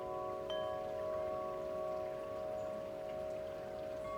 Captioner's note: wind chimes